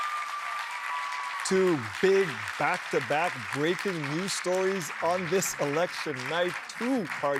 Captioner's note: cheers and Applause